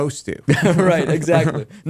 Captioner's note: laughter